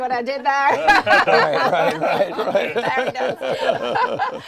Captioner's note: everybody laughing